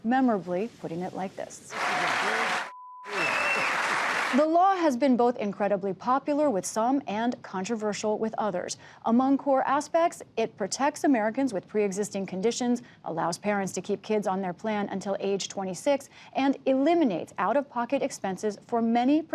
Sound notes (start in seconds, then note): 3.0 cheering and applause